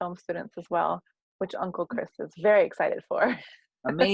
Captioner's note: laugh